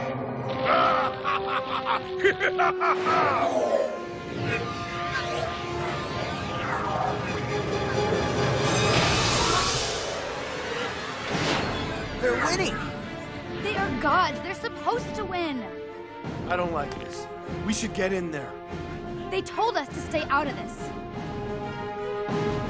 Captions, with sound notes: (Laughing) They're winning. They are gods! They're supposed to win. I don't like this. We should get in there. They told us to stay out of this.